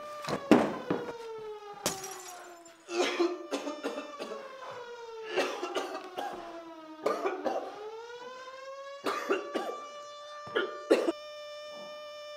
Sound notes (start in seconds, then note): 1.8 gas mask glass SHATTERS; 2.9 Greg COUGHING